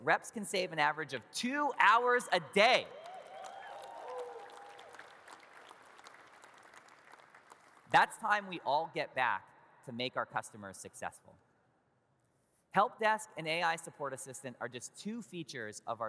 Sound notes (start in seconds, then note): 2.6 audience cheers and claps